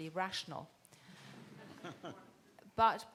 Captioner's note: people laughing